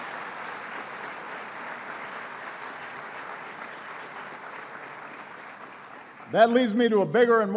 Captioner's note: applause